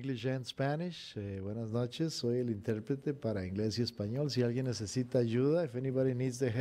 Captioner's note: speaking in foreign language